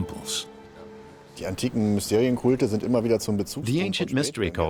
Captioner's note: speaking in German